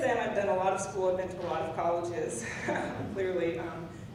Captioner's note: laughs